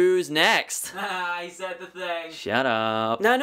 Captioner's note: voiceover